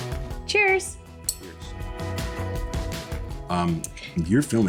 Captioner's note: forks clinking